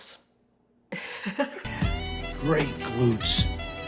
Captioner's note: laughs